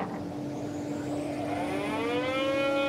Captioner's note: loud whirring